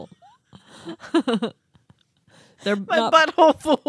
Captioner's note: chuckling